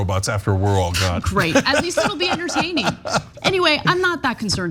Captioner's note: laugh